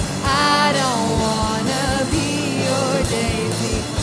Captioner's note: none